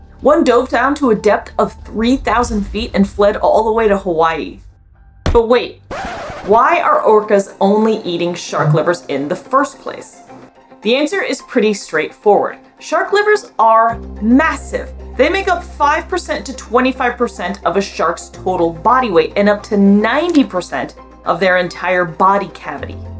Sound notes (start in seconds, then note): 5.9 record scratch sound effect; 10.2 background music